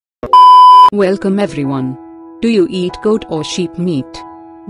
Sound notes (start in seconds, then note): 0.2 disclaimer Beep